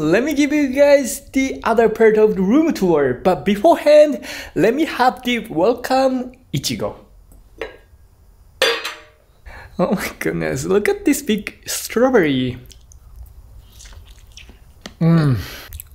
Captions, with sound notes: Let me give you guys the other part of the room tour. But beforehand, let me have the Welcome ichigo. [GLASS CLANKS] Oh my goodness! Look at this big strawberry! Mmm!